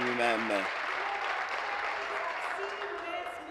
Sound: applause

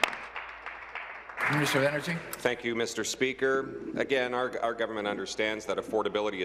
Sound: applause

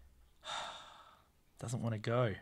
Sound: sigh

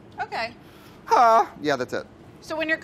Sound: yelps

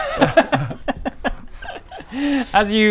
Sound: mischievous giggles

